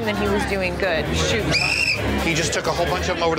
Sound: whistle blowing

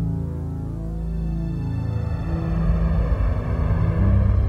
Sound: spaceship engine

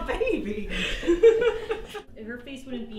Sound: chuckles

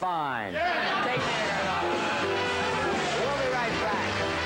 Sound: audience cheering

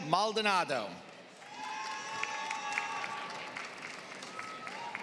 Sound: applause

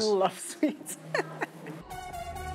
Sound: laughs

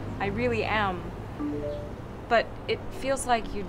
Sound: text tone

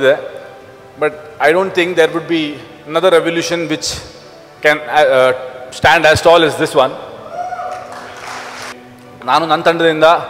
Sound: applause

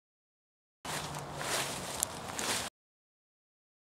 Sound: footsteps

